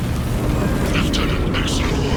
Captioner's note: screaming and groaning